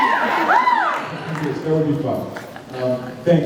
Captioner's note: cheers